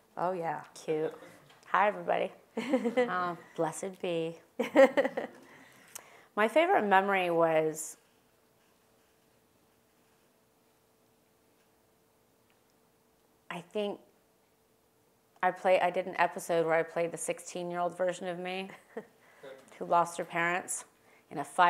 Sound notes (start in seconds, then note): 4.6 laugh; 19.1 laugh